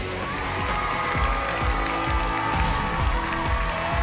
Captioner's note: cheers and applause